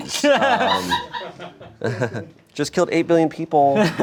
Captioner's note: crew laughs